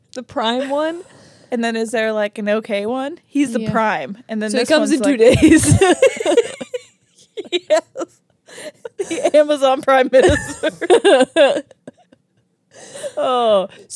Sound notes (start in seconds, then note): 5.2 laugh; 10.2 laugh